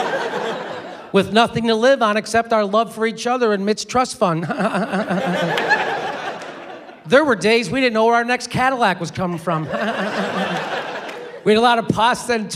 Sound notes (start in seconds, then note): 4.4 fake laugh; 9.6 fake laugh